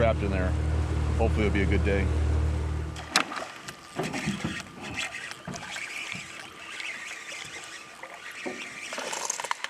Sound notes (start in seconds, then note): 4.4 boat engine running; 6.0 rod whipping; 7.2 reel cranking